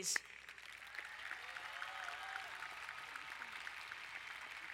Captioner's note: crowd applauding